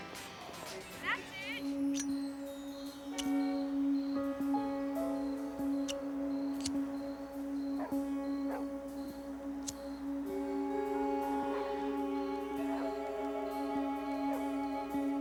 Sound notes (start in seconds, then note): 1.5 suspenseful music; 8.4 dog barking